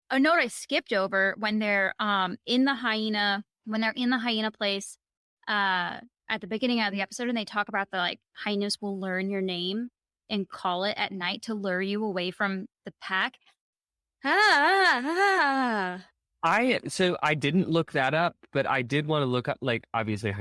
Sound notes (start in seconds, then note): 14.2 wigged out noise